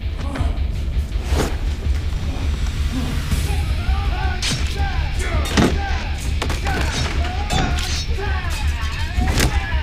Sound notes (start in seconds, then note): 3.1 men yelling; 3.9 dramatic music; 5.4 thudding